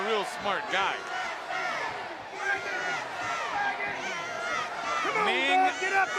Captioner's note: crowd cheering